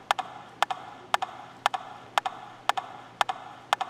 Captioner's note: rhythmic tapping